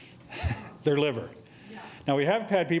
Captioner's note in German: laughs